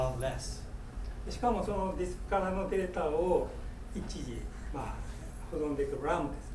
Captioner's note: speaking in foreign language